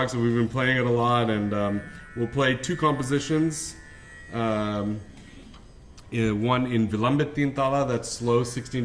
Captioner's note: non-english speech